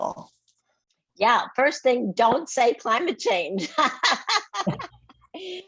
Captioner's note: laughs